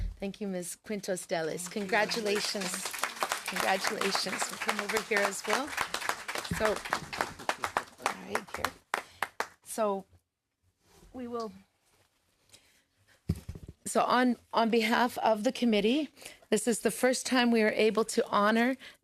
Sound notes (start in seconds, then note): 7.1 applause